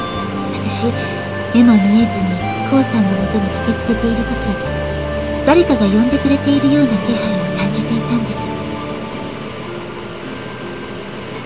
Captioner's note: rain